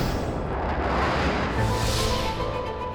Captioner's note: blasting off